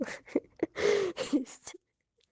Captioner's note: laughing